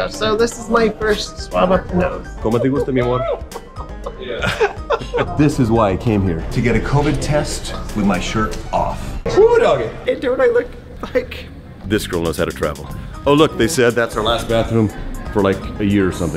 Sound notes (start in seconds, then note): 2.6 speaking in foreign language; 4.0 laughing